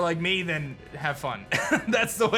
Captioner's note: chuckles